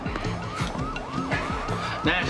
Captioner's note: sirens